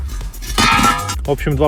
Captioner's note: bang